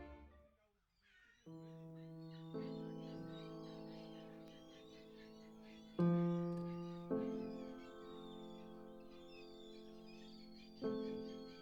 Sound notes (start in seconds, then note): 1.5 slow piano playing; 2.7 birds chirping